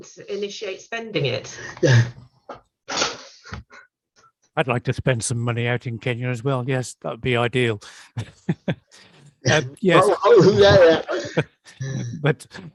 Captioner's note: laughs